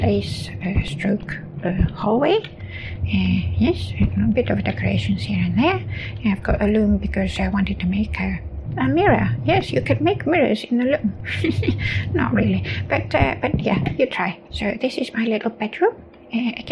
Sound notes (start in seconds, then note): 11.1 chuckles